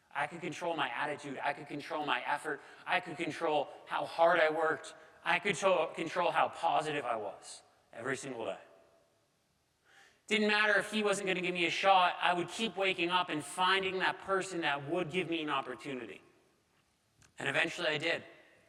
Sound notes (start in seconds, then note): none